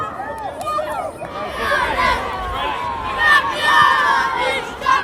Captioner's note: jubilant cheers